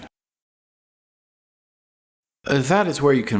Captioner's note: more dramatic silence